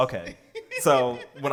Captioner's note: laughs